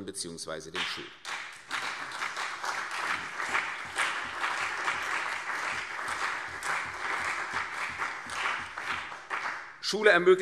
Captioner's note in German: Beifall BÜNDNIS 90/DIE GRÜNEN, CDU und Ministerpräsident Volker Bouffier